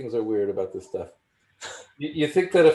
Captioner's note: chuckles